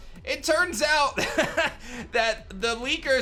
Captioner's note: chuckles